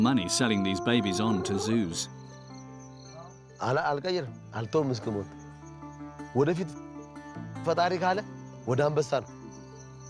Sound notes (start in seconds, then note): 3.7 speaking in foreign